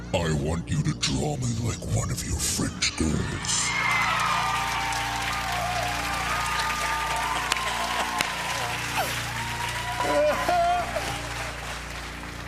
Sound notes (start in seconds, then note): 3.4 cheers and applause; 5.7 laughter; 12.2 normal voice